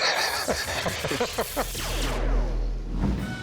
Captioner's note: laughter